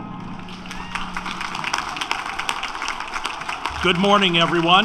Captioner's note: applause